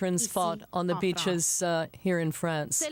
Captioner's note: speaking French